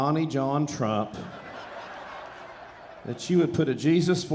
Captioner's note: audience laughing